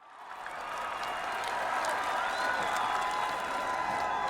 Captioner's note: applause